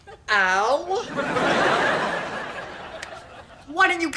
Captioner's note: audience laughter